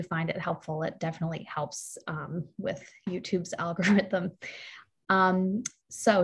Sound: chuckles

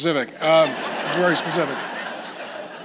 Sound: congregation laughs

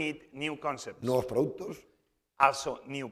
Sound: speaking spanish

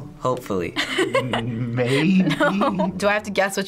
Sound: laughing

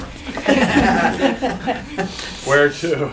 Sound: laughter

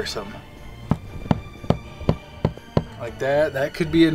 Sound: wood knocking

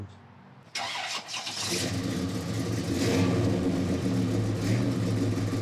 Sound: car engine roaring

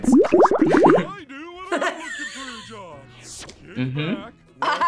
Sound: laughs; laughs

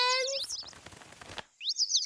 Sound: birds chirp

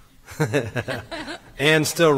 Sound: laughs

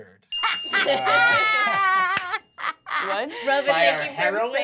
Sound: Fig laughs

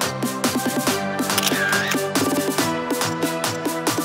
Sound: camera clicking; upbeat music

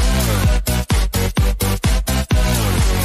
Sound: none

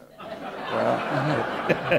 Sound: laughter

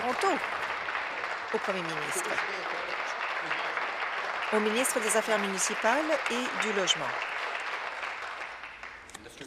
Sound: applause

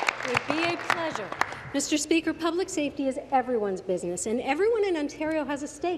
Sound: applause

